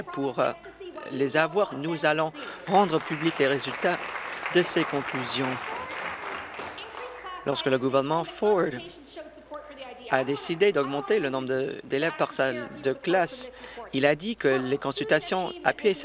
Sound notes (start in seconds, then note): 7.7 applause